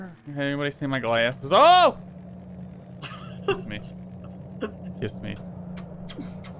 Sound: smooches

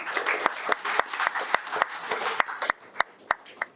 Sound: audience applauds

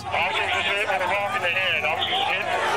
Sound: police On Radio

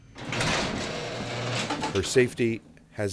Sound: metallic rattling

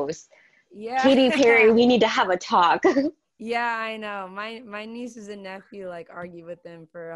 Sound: laughing

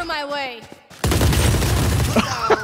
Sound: firing squad; laugh

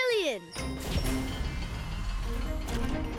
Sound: whirring

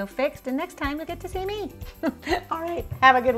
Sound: chuckling softly

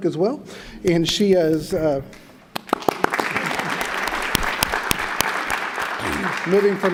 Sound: applause

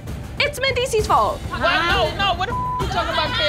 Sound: beep

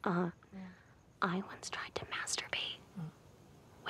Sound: whispers

